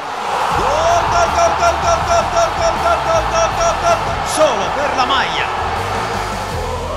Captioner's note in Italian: Applauso